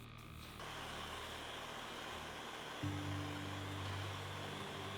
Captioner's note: blowtorch whooshing